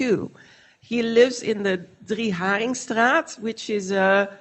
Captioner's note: foreign language